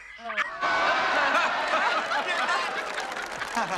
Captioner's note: Зрители рофлят